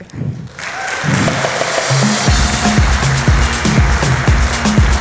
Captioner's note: applause